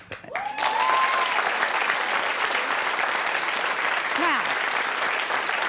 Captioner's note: audience cheers and applauds